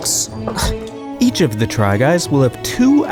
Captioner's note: scoffs